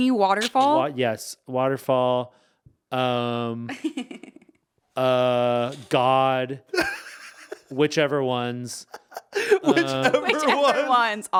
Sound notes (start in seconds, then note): 3.2 laughing